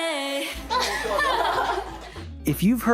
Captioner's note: laughing